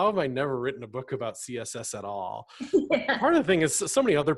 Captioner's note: laughs